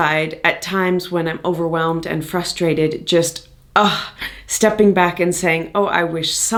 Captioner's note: ugh